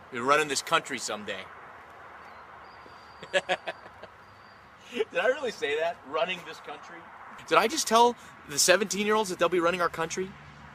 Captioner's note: laughs